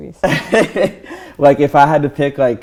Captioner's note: he laughs